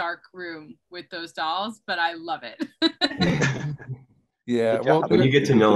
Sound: laughs loudly

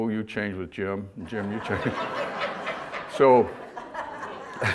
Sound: audience laughter

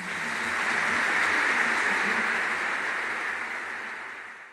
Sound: audience applauding

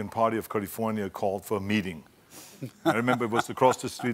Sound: laughing

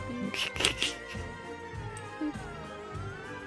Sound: snickers

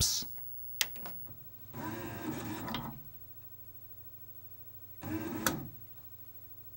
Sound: similar mechanical sounds to the last player as unit boots

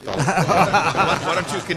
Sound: laughter

